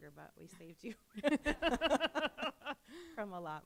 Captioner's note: laughter